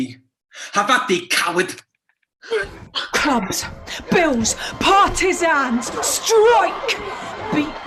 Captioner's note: fighting sounds, police sirens